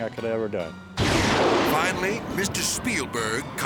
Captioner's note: thunder crashes